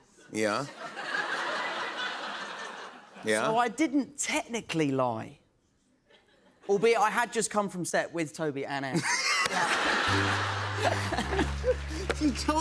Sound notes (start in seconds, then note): 0.7 laughter; 8.9 laughter; 10.0 sad tuba